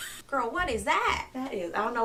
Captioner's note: laughing